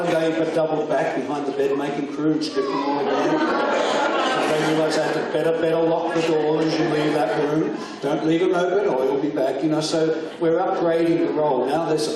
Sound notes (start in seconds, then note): 3.6 audience laughs